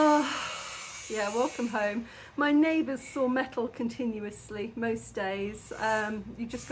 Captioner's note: loud metal sawing noise; sigh